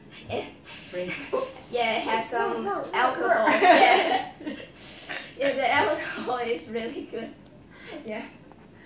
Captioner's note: laugh